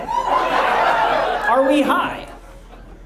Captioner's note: audience laughs